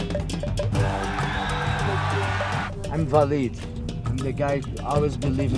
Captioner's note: crowd cheering